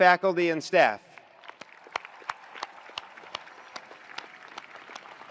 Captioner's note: attendees applauding